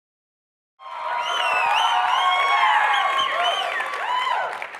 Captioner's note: cheering and applause